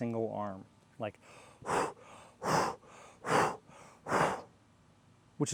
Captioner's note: breathes in backstroke